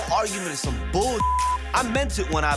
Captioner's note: beep